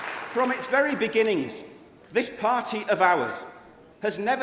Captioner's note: applause